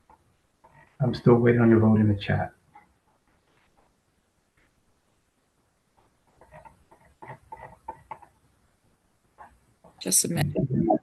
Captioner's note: pause